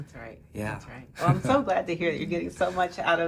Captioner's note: laughing